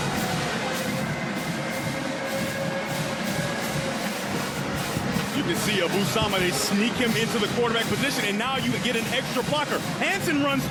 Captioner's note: cheers and applause